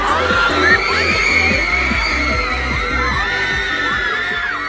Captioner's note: fans screaming